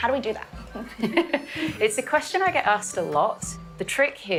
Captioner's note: laughs